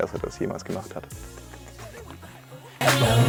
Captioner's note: kisses